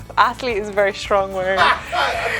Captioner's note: interviewer laughs